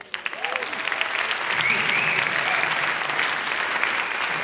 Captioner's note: cheers; applause